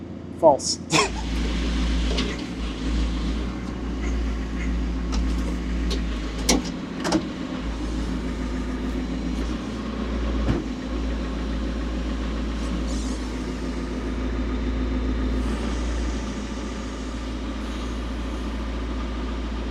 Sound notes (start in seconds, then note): 0.8 laughs; 2.0 telehandler whirring